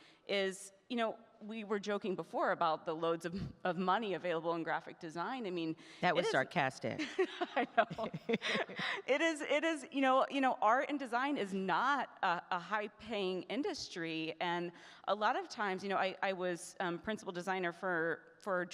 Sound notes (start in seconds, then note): 6.9 laughing